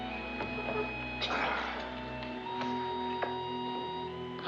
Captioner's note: sighs